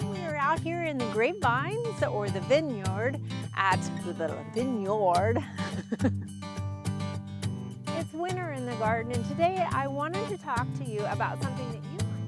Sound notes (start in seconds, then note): 5.2 chuckles; 5.7 gentle guitar music; 12.1 gentle guitar music